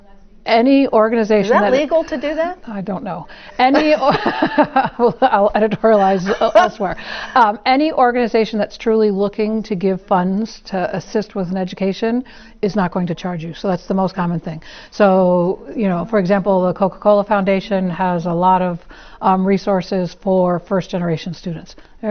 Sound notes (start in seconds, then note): 3.6 laugh